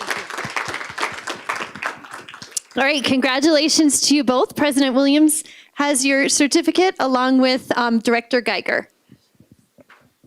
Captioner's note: applause